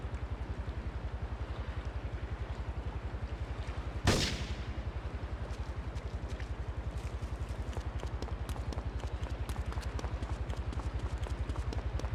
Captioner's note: gun firing